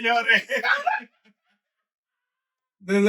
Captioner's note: laughing; speaking In Foreign Language